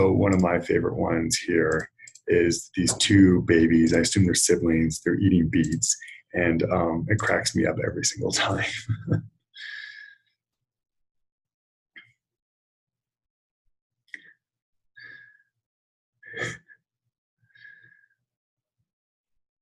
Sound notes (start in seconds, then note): 10.3 silence while the .gif runs